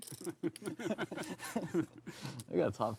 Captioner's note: table laughs